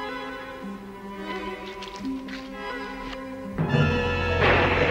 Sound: shrivelling sound

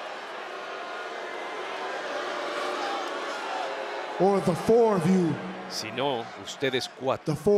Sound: applause

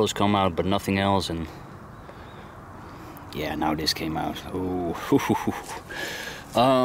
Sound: chuckles

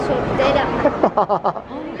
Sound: chuckles

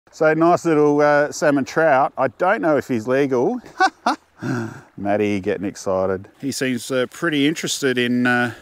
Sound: laugh

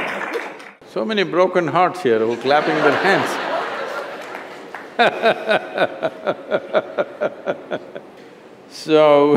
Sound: laughter; laughs

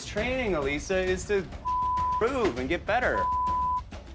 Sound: beep; beeping

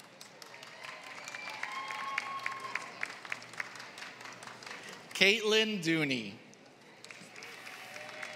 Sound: applause

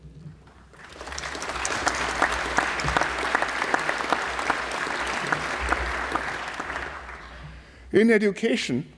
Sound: applause

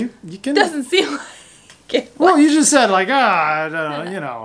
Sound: laughs

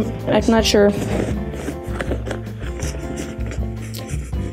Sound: bag rasping

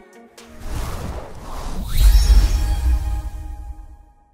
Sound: logo swishing

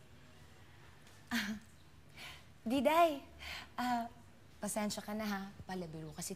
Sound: chuckles

